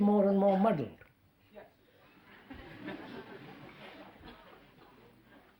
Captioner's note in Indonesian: Tertawa